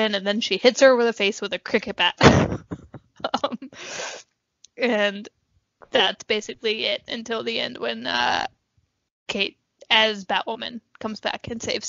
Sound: laughs

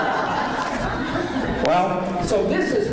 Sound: laughing

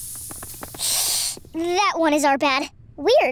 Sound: helium voice

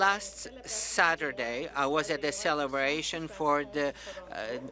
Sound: speaking French

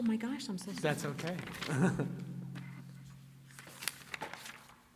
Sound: chuckles

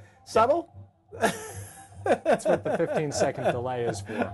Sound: laughter

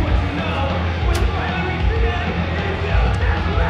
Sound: lock clicks

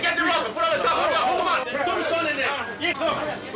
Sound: men yelling simultaneously

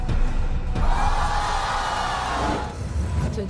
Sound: audience gasping

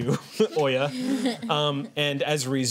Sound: chuckles

